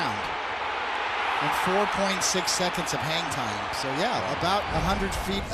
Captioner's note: cheers and applause